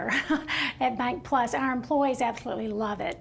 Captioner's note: laughing